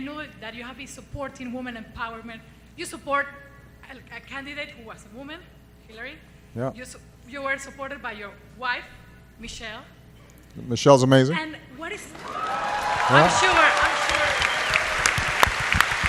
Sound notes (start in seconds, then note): 12.1 applause